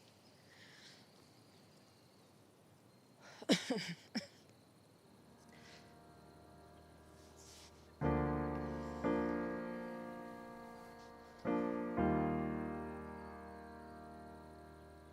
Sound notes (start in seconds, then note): 0.2 Bethany and Kimberly chuckle; 3.4 Kimberly coughs; 8.7 soft music